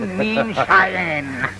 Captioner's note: laughter